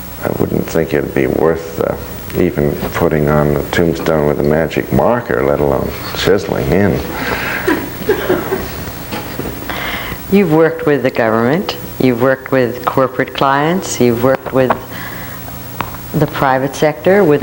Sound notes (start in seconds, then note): 6.8 laughing